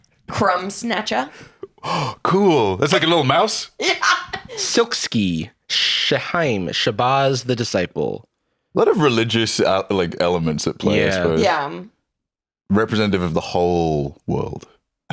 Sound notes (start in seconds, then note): 1.3 gasps; 3.8 laughing